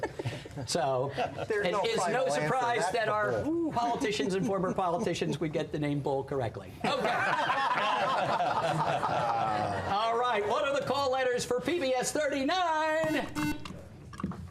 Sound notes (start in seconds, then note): 6.8 laughter; 13.0 buzzer